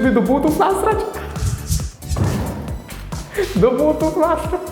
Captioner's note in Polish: Śmiech Antka